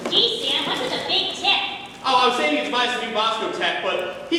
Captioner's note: none